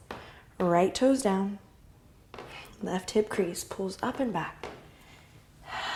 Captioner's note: exhale